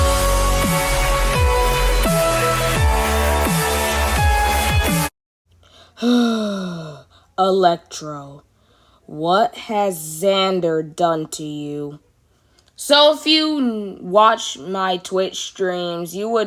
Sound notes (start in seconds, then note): 0.9 sigh